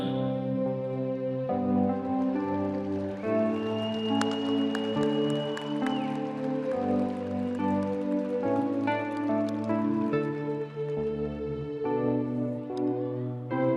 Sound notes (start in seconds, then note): 7.7 audience applauding; 7.7 audience cheering